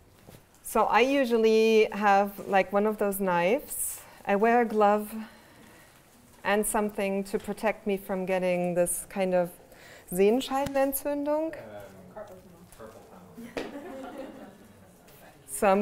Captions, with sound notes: So I usually have, like, one of those knives. I wear glove, and something to protect me from getting this kind of, (speaks German)? - Carpal tunnel. - Carpal tunnel. (laughter)